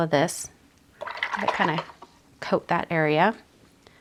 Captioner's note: water gurgles